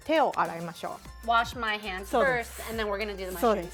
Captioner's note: speaking Japanese